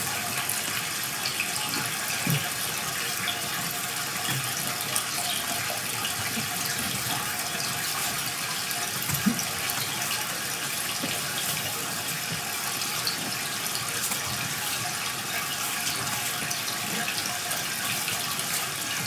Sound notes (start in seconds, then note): 4.3 water trickling continues; 13.5 water trickling continues